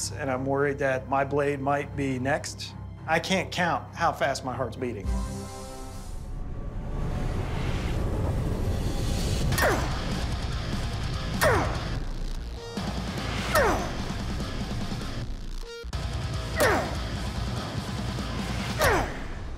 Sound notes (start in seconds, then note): 4.9 tense music; 9.3 grunting; 14.7 speed metal music